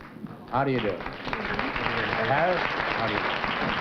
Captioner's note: applause